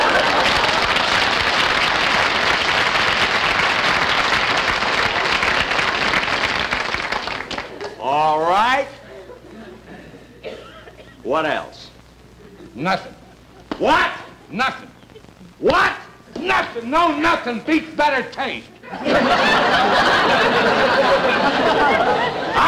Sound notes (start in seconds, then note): 0.0 audience Applauding; 13.6 smack; 15.5 smack; 18.8 audience Laughing